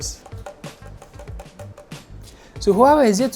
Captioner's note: knocking sound